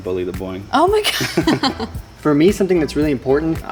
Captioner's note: laughs